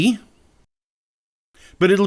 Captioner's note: judging silence